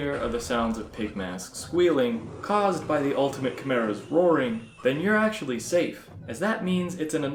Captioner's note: followed by the Ultimate Chimera roaring